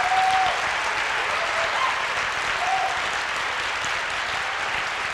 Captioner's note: applause